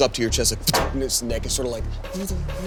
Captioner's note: metal thuds